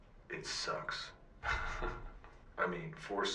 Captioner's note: laughs